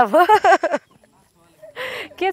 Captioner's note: laughs